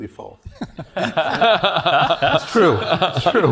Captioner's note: laugh